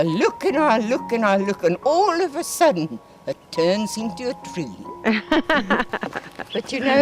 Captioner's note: laugh